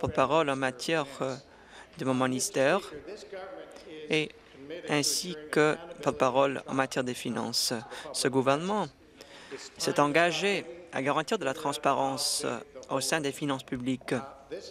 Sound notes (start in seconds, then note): none